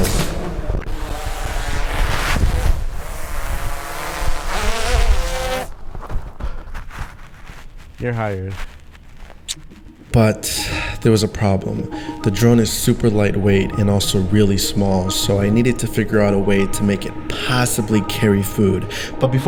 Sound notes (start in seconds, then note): 0.0 drone buzzes; 9.4 lips smacking